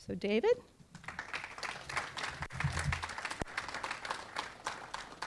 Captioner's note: audience clapping